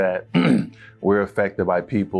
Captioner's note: clearing throat